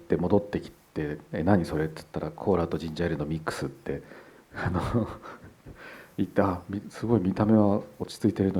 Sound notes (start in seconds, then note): 4.5 Kore-eda laughs